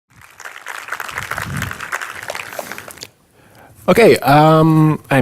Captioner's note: audience applauds